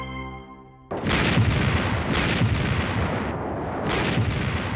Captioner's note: explosions